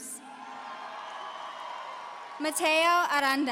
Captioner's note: audience cheering